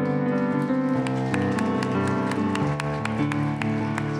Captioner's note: applause